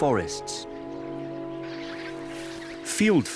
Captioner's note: birds twittering